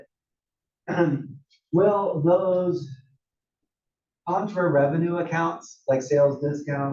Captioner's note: cough